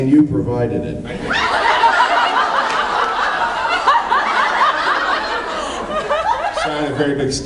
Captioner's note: laughs